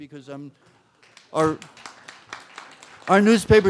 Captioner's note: applause